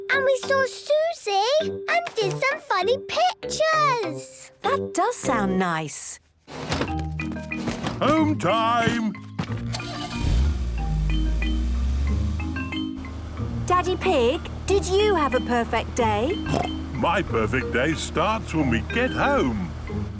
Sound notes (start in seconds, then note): 9.7 engine starting